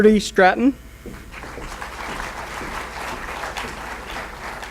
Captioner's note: applause